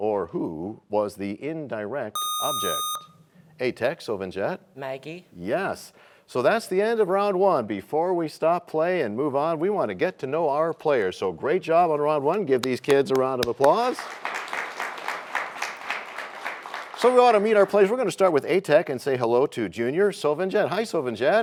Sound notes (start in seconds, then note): 14.5 applause